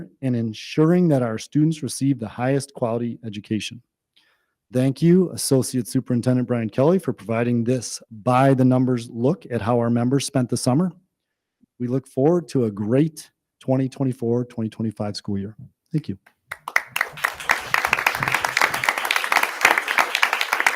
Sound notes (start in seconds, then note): 16.5 audience applause